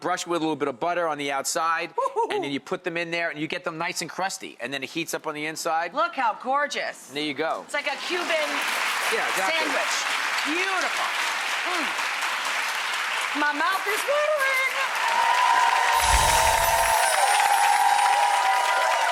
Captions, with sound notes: brush with a little bit of butter on the outside, and then you put them in there, and you get them nice and crusty. And then it heats up on the inside, Look how gorgeous! There you go. ` It's like a Cuban sandwich. - Yeah. Beautiful. (audience cheering)